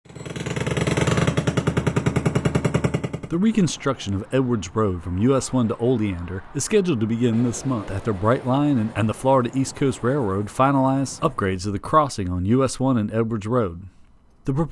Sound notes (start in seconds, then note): 0.0 jackhammer pounding